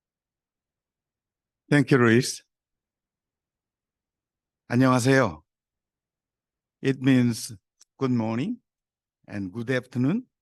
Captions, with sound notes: - Thank you, Louise. (speaking in foreign language) It means good morning and good afternoon,